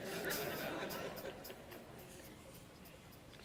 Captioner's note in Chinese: 笑聲